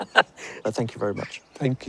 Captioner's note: laughs